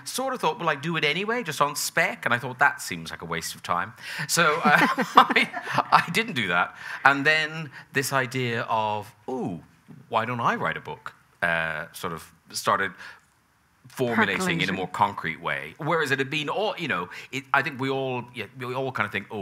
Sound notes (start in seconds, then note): 4.4 both chuckling